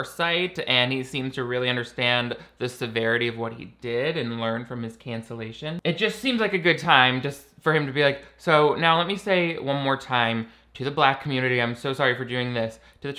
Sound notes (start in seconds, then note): none